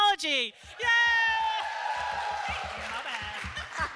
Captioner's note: applause